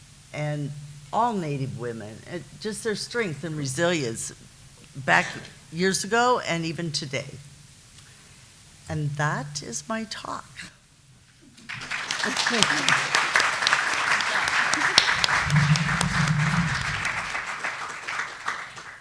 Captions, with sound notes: and all Native women. Just their strength and resilience, back years ago and even today. And that is my talk. (applause)